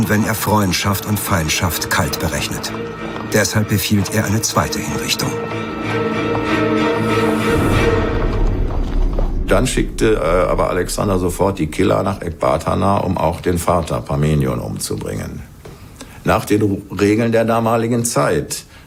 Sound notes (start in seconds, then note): 8.3 suspenseful music stops; 9.3 in German